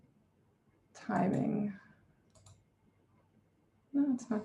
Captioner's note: mouse clicks